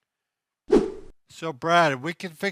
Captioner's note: wooshing sound as scene transitions